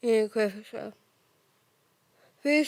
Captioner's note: soft breathing